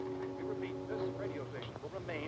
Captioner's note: radio